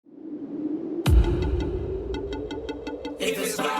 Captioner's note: wind